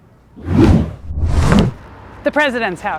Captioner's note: wind whooshing